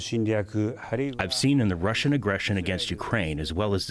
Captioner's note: through translator